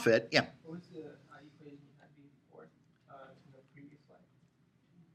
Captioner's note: student speaking quietly